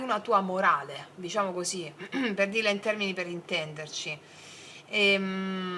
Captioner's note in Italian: schiarire la voce